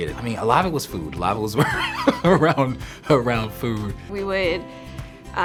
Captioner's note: laughs